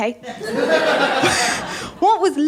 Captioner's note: laughter